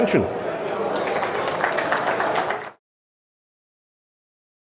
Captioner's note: applause